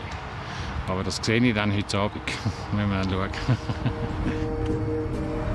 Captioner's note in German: lacht